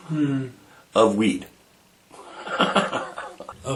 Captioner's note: laughing